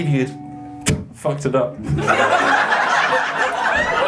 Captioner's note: laughs